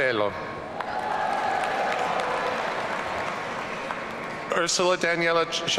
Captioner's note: audience cheering